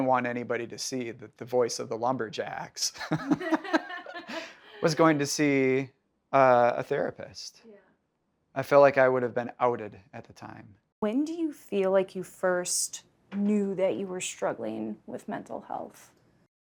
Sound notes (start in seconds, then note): 6.9 laughs